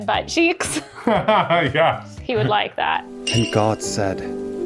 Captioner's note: laughs